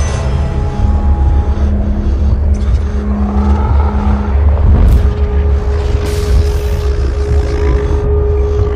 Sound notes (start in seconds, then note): 3.0 growls; 4.9 whoosh